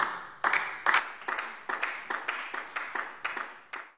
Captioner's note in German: Beifall DIE LINKE